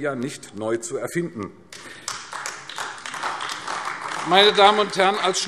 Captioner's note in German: Beifall AfD